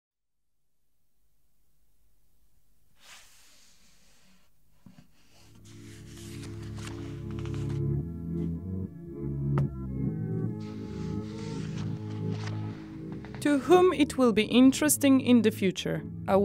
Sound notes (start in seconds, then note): 3.1 book scraping; 6.3 paper riffling; 7.8 soft organ music; 9.8 thudding; 10.6 paper riffling